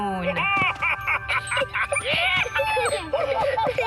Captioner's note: excited laughter